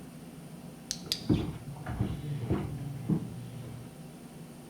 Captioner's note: device clicks; footsteps above